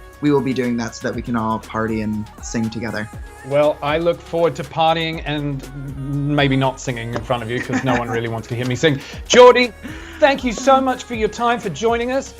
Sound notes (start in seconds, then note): 7.4 laughs